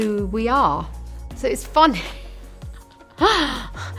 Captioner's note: laughing